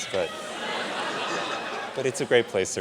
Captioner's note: audience laughs